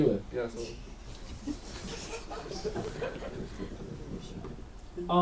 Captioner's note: audience giggles